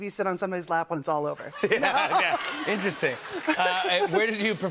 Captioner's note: laughter